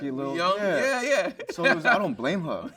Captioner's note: laughs